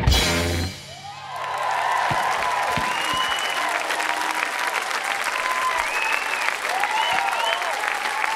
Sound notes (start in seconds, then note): 4.6 audience cheers